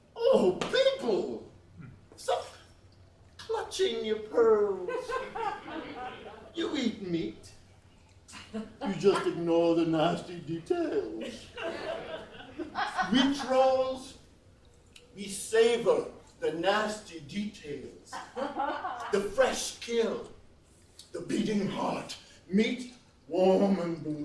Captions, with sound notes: Oh people, stop clutching your pearls. (laughs) You eat meat, you just ignore the nasty details. We trolls, we savor the nasty details, the fresh kill, the beating heart, meat warm and bloody,